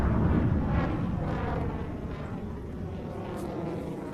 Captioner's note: jets passing